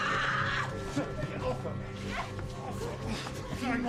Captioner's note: screams